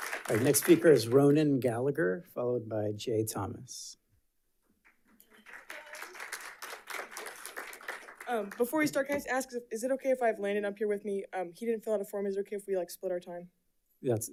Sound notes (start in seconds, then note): 4.9 audience applauding